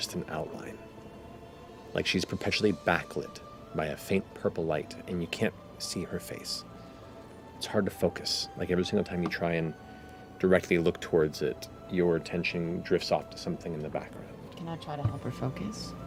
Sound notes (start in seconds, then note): none